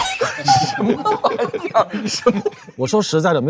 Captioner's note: laughing out of anger